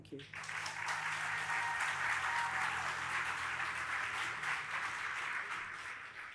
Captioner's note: audience applauding and cheering